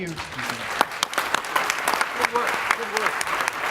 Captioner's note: applause